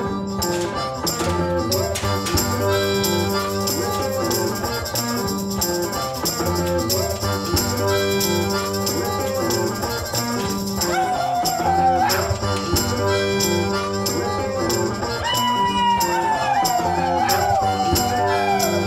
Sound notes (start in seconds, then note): 11.1 guy shouting; 14.2 howling